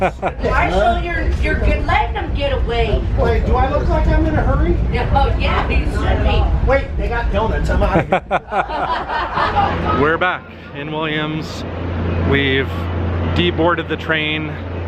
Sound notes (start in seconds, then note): 7.9 laughter